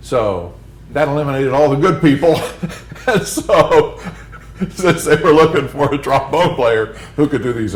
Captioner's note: laughter